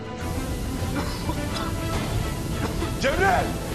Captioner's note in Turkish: Öksürüyor